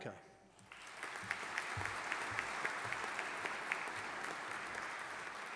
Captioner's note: audience applauding